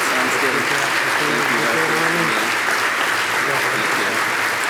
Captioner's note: murmuring